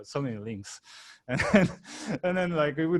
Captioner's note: laughing